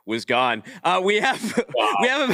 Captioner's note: laughs